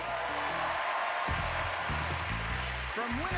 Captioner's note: cheering